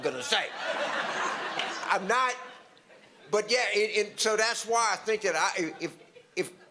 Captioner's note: audience laughter